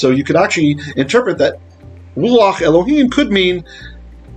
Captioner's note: Hebrew